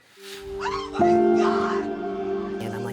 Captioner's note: screaming